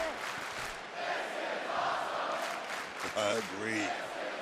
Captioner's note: crowd chants "this is awesome"